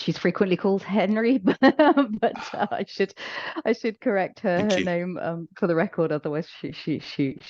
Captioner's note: laughs